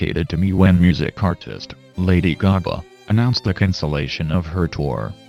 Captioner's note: none